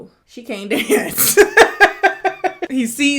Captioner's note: laughing